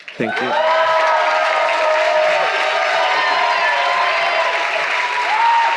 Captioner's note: audience applauding